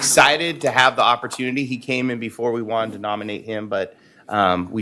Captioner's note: applause